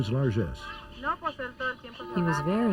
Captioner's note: resident speaks Spanish